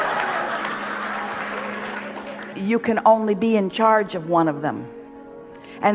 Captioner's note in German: Beifall